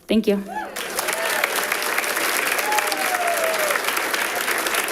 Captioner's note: audience applauding